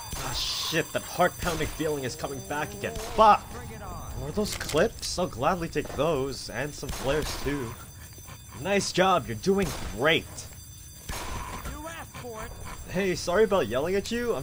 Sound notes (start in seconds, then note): 0.2 gunfire, zombie snarling; 6.8 gunfire, zombie snarling; 11.0 gunfire